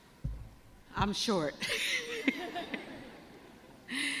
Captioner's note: laughs